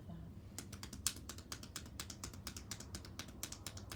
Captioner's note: hands tapping